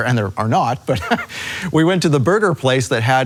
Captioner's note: chuckles